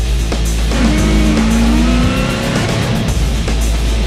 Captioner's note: engine revs